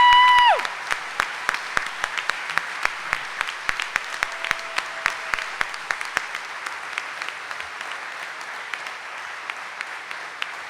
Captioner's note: audience cheering and applauding